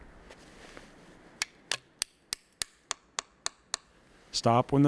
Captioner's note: hammer tapping